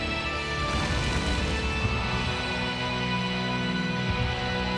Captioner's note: flames roaring